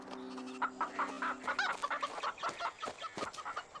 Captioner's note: quacking and clucking